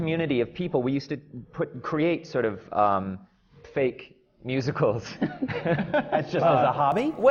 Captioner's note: laughter from the panel